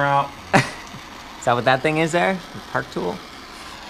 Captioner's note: laughs